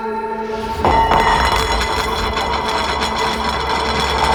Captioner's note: plate rattling